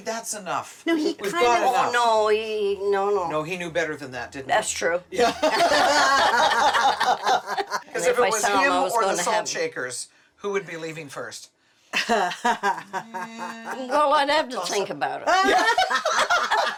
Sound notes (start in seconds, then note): 5.2 laughter; 12.9 laughing